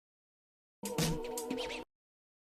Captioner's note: sound akin to a funky record spin